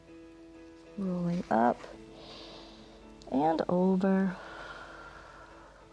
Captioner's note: exhales; inhales